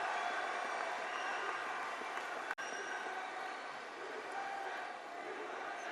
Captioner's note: applause